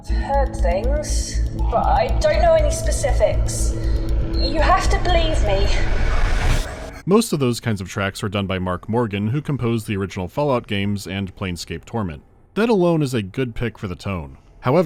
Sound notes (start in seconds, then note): 0.0 tense, fast-paced beats and oppressive hum; 0.1 the hum rises